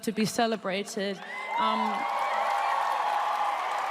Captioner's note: applause